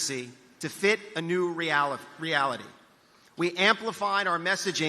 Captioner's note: none